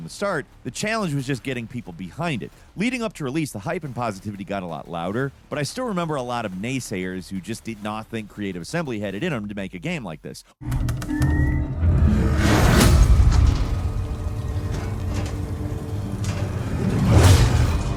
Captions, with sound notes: from the start. The challenge was just getting people behind it. Leading up to release, the hype and positivity got a lot louder. But I still remember a lot of naysayers, who just did not think Creative Assembly had it in them to make a game like this. (loud bang) (ominous music)